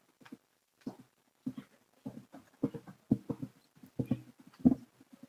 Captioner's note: footsteps tapping